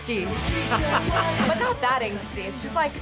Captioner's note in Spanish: risas